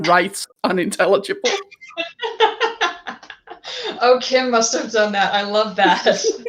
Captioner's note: laugh